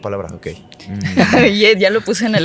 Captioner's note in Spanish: Se ríen